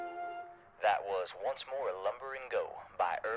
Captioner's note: radio Announcer